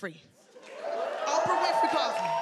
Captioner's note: audience cheering